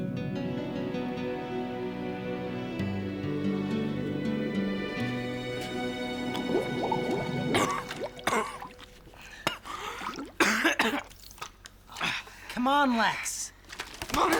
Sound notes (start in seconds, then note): 0.1 peaceful music; 7.0 coughing